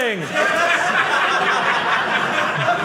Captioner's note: audience laughing